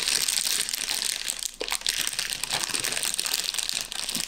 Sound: loud plastic crinkling

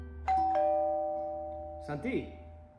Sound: door bell rings

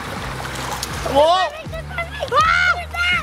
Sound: screaming

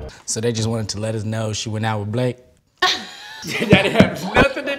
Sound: laugh

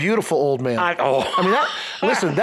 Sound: laughs

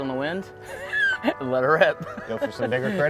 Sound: laughs

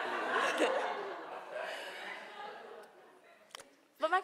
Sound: laughing

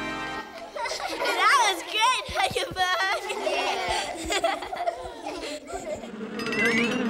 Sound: laughs

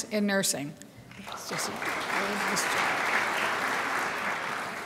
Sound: crowd applauds

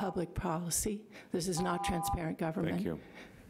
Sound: buzzer rings

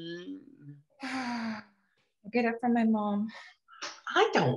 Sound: sighs

